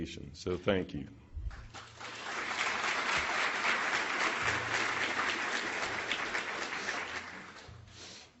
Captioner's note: applause